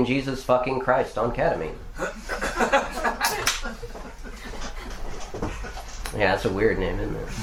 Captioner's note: laughter